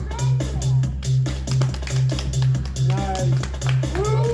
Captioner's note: audience applauds